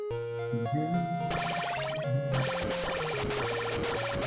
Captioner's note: humming along